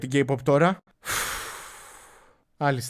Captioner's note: heavily exhales